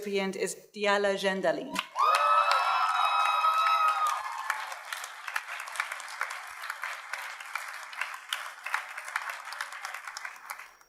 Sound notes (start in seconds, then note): 1.8 audience cheers and applauds